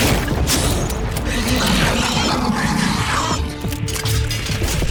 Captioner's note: hissing